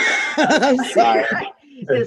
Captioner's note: laughs